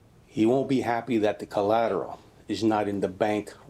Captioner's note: none